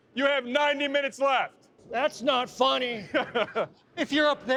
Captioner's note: chuckles